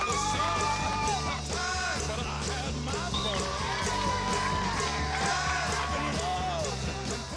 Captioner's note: cheering